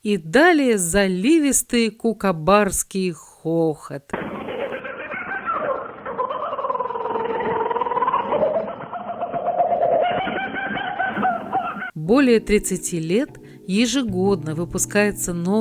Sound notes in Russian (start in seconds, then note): 4.3 звучит запись смеха кукабарры